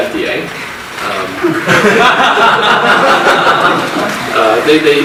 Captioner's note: audience laughs